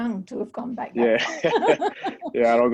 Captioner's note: laughter